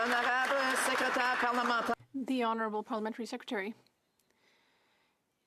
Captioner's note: some Applause